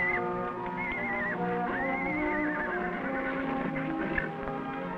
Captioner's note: concerned whinnying